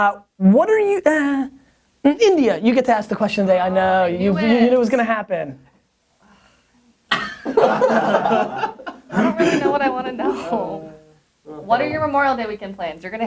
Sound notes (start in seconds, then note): 5.7 sighs; 7.2 laughing offscreen